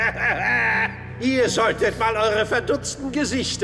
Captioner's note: laugh